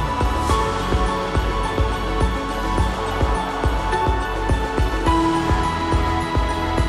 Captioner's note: sound of boat